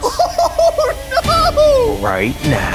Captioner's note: laughing